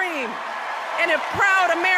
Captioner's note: applause